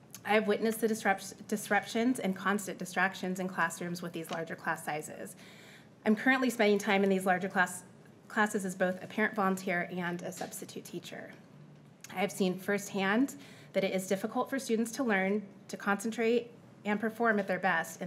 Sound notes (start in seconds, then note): none